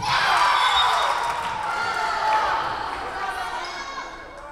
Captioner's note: whistle blowing